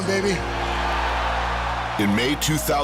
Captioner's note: cheering